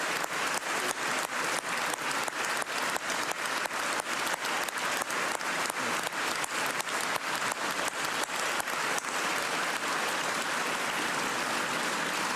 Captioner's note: cheers and applause